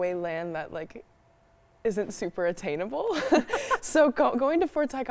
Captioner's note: both laugh